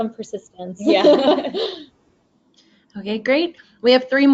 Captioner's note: both laugh